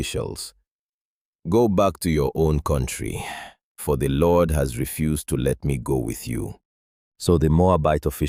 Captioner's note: sighs